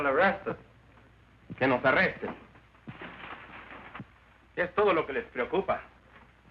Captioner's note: Ramon speaking Spanish